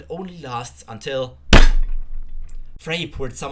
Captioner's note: explosion